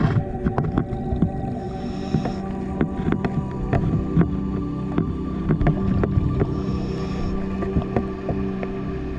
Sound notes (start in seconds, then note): 1.8 underwater sounds continue